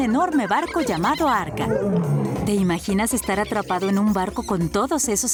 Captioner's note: animal noises